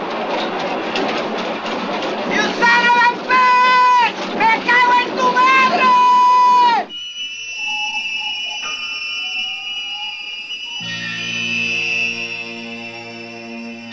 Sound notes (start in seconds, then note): 4.3 Spanish spoken audio